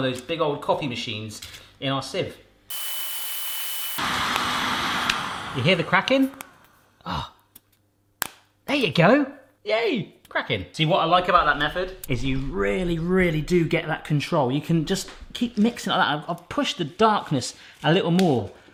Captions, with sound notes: of those big old coffee machines, in our sieve. (heat gun blowing loudly) You hear the cracking? Ah, there you go. Yay, cracking. See, what I like about that method, is you really, really do get that control. You can just keep mixing it like that. I've pushed the darkness, a little more.